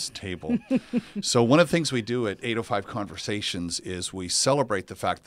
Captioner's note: laugh